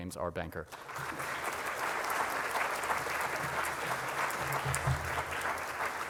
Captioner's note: audience applauding